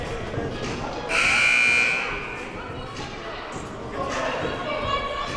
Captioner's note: buzzer sounding